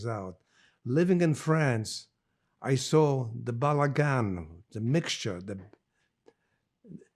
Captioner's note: hebrew